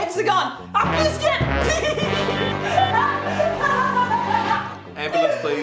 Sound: laugh manically

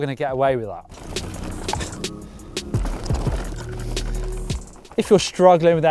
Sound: gravel crunching

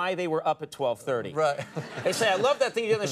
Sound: Jerry and audience laugh lightly

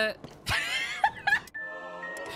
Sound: wheeze Laughter

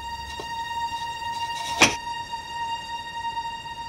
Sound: door unlocked

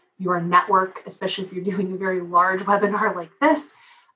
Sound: laugh

